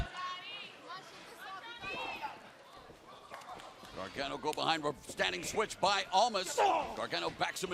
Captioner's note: crowd chatter